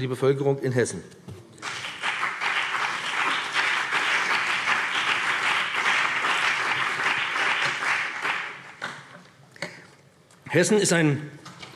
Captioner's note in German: Beifall BÜNDNIS 90/DIE GRÜNEN und vereinzelt CDU